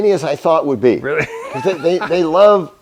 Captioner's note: laughter